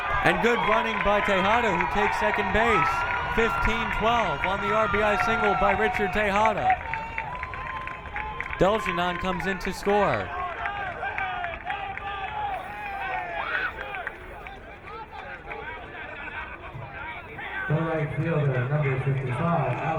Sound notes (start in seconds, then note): 11.2 crowd cheering